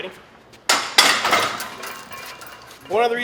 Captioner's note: metal clanking